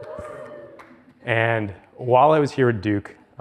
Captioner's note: audience members cheers